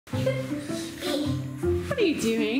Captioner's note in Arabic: الضحك